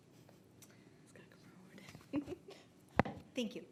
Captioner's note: chuckles